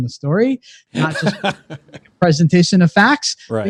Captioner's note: laughs